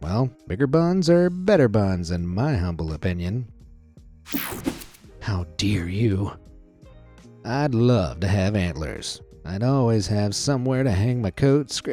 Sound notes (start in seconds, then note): 4.2 screen whooshing